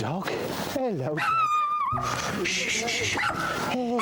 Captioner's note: Flossie yelping